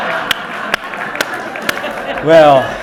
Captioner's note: clapping; audience laughing